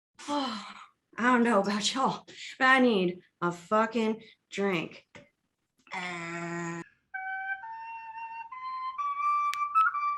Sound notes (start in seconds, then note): 0.2 sigh